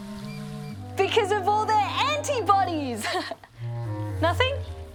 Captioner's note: laughs